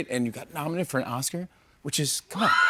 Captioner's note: cheers and applause